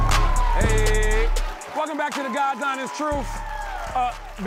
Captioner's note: applause